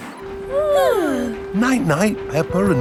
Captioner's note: both yawning